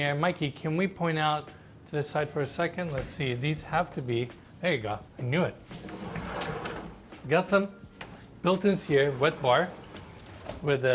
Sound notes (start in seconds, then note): 5.7 door slides